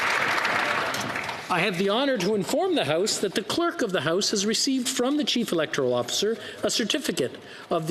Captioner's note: applause